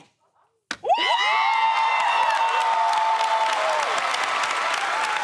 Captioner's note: cheers and applause